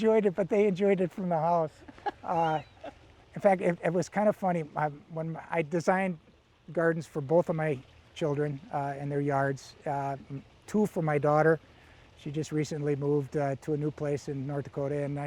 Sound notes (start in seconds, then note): 1.7 laughing